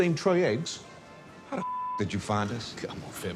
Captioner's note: beep